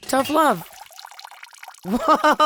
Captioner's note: water trickling